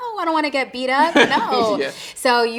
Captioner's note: interviewer chuckling